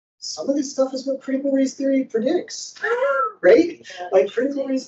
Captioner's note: wheezes